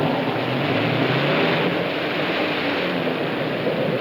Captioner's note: engine revs